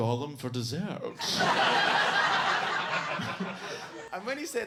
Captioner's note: audience laughs